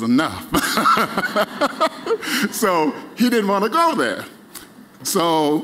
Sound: laughter

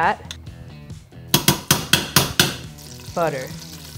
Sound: spoon hitting metal bowl

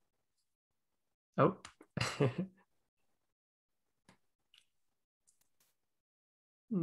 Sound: chuckling

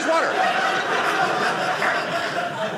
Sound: audience laughing

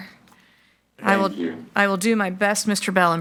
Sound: bell

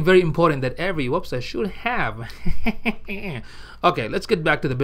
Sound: cartoon laughter

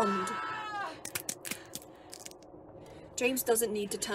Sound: bones breaking

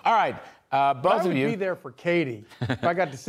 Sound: laughter

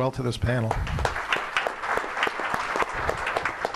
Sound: applause

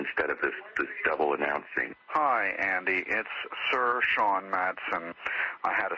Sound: over telephone

